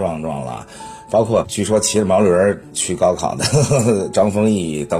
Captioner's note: haha